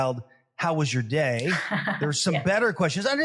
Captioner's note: laugh